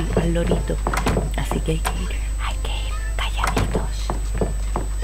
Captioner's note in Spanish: susurrando